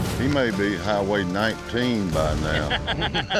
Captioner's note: laughter